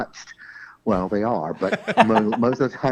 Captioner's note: both laugh